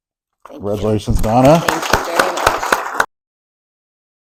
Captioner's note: applause